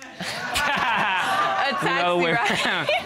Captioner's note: laughs